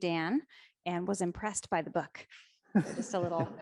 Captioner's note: audience members laugh